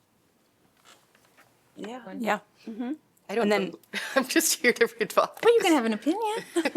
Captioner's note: laughter